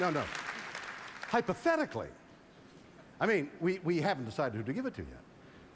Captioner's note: applause